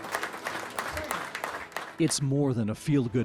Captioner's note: applause